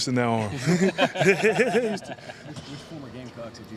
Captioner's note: laughing